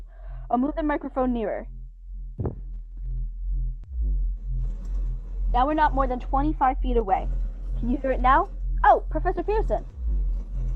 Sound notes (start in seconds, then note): 2.0 scraping noise begins